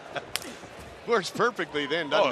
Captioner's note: laughing